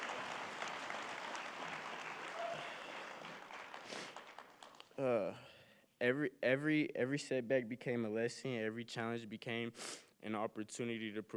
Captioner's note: cheering and applause